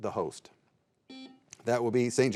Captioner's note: buzzer beeping